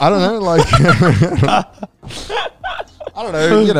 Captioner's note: laughs